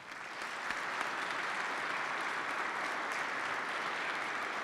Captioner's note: participants clap